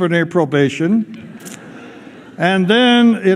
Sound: laughter

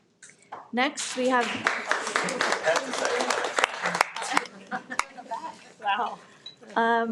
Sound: everyone applauds

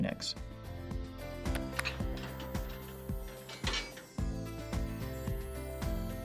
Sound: light music; mechanical clanking

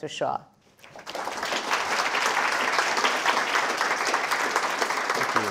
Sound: audience applauding

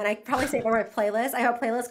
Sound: laughs

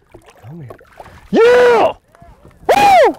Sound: yelling

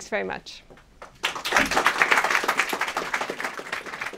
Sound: applause

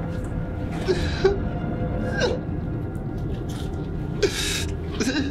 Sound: driver sobbing

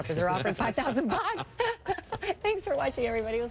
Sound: laughs

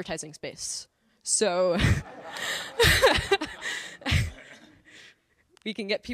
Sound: laughter

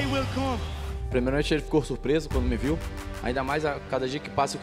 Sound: speaking Portuguese

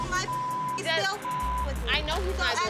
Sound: beep

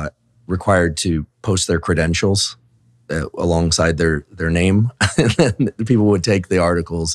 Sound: chuckles

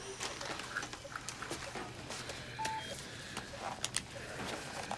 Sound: medical machines beeping

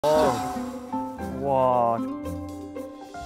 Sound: camp fire

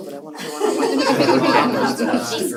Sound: laughter

